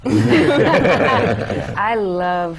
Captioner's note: laughter